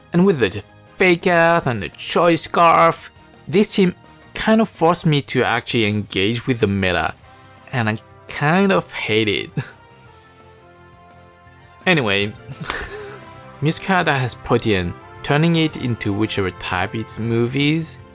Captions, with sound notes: And with the Fake Out, and the Choice Scarf, ... And with the Fake Out, and the Choice Scarf, ... This team kind of forced me to actually engage with the meta, This team kind of forced me to actually engage with the meta, and I kind of hate it. and I kind of hate it. Anyway... (chuckle) Anyway... (chuckle) Meowscarada has Protean, turning it into whichever type its move is, Meowscarada has Protean, turning it into whichever type its move is,